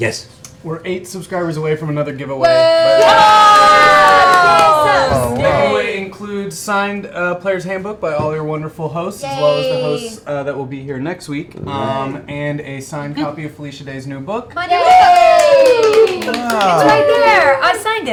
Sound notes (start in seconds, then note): 2.4 cheering